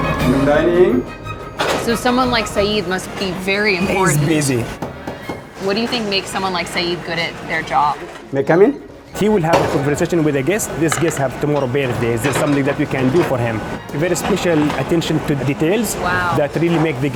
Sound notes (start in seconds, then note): 4.7 knocks on door